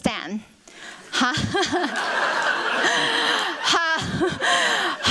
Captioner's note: laughter